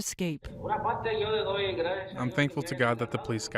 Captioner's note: speaking spanish